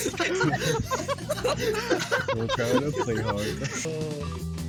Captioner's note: laughter